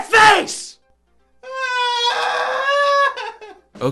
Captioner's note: cries